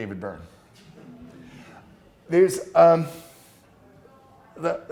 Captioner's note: class laughing